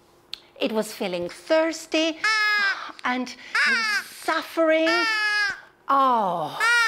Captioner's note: crow puppet yells